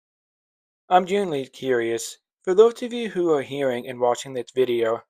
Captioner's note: voiceover